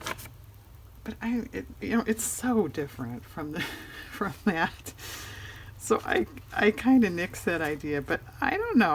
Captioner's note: laughs